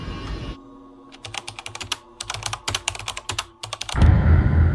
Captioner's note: typing